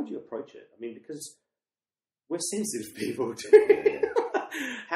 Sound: laughs

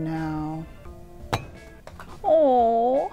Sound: object clunks

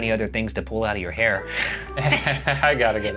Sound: laughs

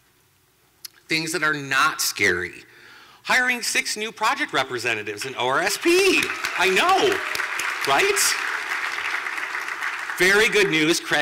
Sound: clapping

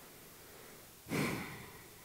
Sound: sighs

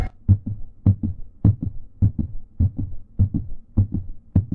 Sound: suspenseful music; rhythmic beating

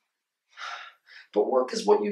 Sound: dad sighs

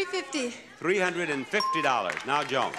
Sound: bell ringing

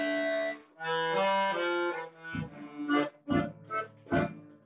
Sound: none

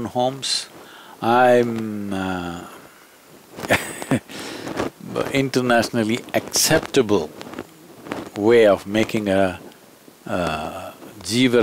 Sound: laughs

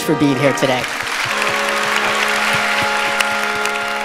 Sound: applause

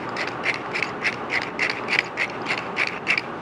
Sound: grinder cranks

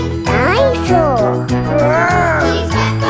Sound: growls

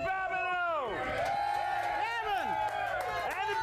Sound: audience cheering

